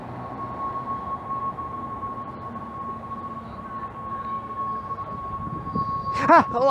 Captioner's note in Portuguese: apito sinistro